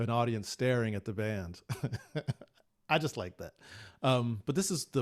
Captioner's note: laughs